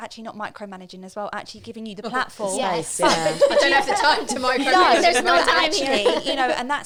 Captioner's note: laughing